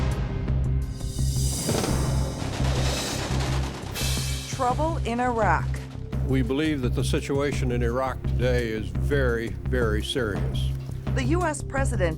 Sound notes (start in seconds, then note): 0.0 playing Theme Music; 3.3 gun Shots